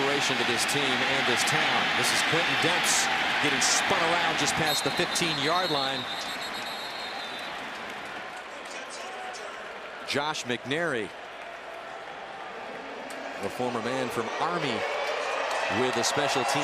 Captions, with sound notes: Been an inspiration to this team and this town. This is Quintin Demps getting spun around just past the 15-yard line. [whistles] [pa announcement] Josh McNary, the former man from Army with a special teams